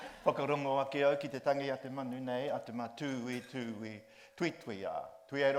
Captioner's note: group laughs; speaks in Māori